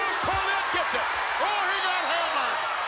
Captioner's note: audience cheers